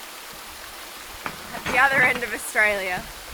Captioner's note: water burbling